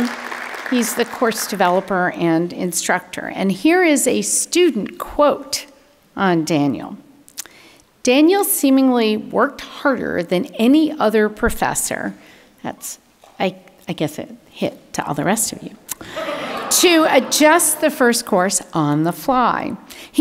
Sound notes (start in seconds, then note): 16.0 audience laughing